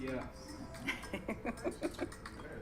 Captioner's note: laughs